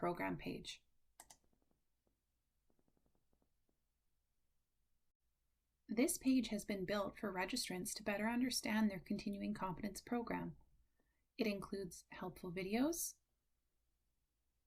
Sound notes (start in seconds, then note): 1.2 click